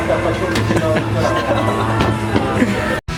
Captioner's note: laughs